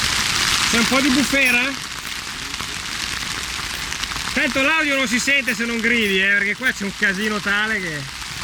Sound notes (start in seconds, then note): 0.0 heavy rain